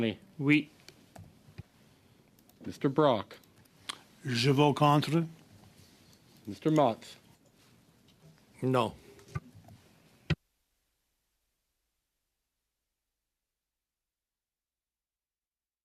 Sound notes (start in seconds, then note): 0.1 speaking French